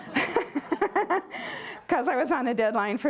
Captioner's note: laughter